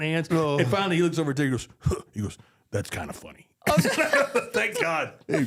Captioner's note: all laughing